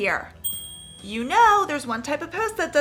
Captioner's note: bell dings